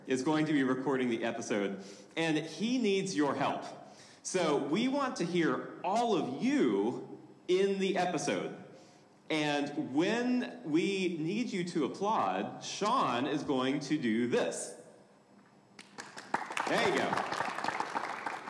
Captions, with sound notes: is going to be recording the episode, and he needs your help. So we want to hear all of you in the episode. And when we need you to applaud, Shawn is going to do this. (audience applauding) There you go.